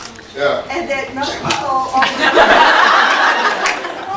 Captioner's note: laughs